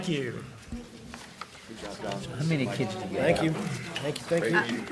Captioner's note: trustees chatting